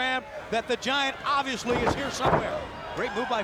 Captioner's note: body thudding